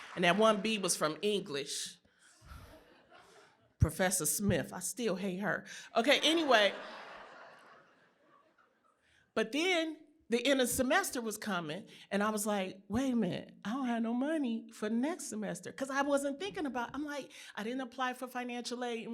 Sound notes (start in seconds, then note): 6.2 laughter